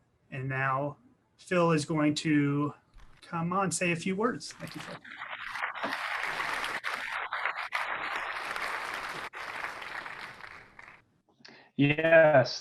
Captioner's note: clapping